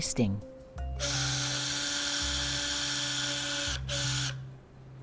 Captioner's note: drill whirring